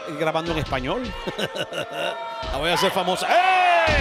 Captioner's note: laugh